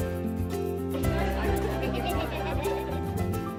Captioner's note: laughing